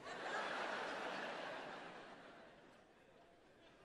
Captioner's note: crowd laughing